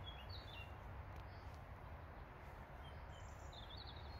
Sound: sound: Bird Song

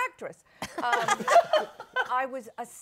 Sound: laughter

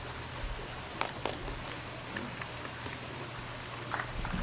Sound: clapping

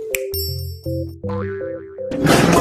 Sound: twinkle; boing; crash

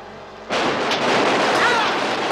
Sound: guns firing

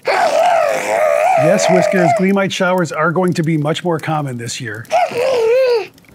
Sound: Whiskers gasp

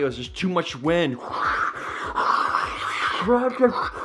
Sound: whooshing

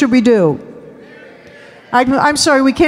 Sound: audience shouting

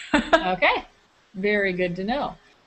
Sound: chuckle

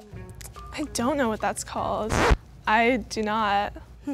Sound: record scratch

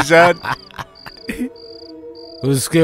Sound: laughs

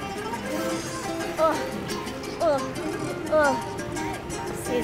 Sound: mellow salsa music; groaning

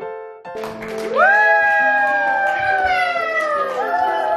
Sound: audience applauds

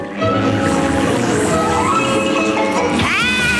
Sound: buzzing

